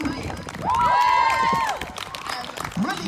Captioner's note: whooping